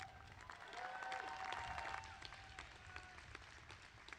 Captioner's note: applause